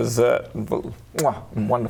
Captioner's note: mwah